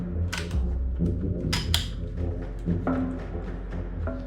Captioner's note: gun clacking